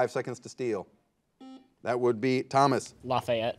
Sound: buzzer buzzes

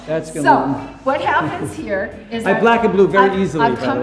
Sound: Tony chuckles

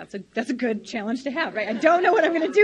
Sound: laughs loudly

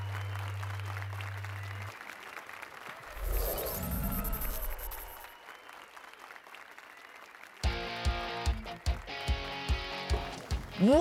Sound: applause and cheers

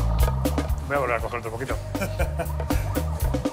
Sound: laughs

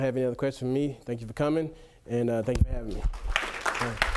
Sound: clapping

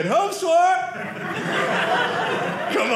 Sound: audience laughing

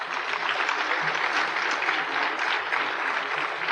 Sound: applause

